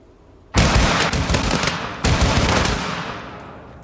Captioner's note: guns firing